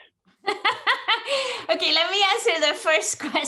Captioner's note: laughing loudly